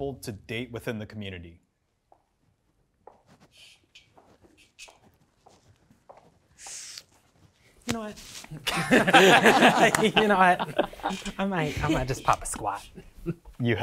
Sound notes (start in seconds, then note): 2.0 footsteps clicking on floor; 9.1 participants applauding